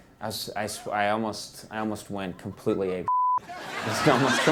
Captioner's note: beep